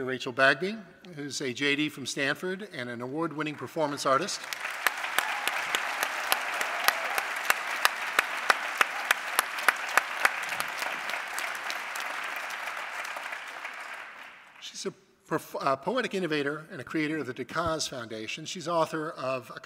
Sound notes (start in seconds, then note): 4.1 applause